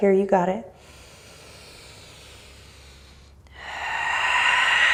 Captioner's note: breathing deeply